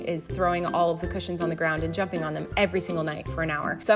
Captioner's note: none